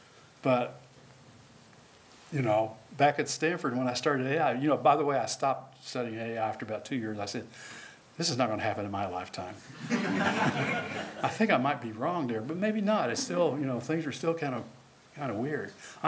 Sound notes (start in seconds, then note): 9.7 laughter